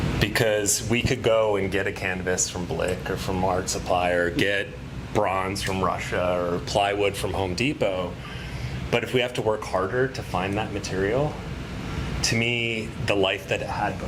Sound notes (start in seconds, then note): none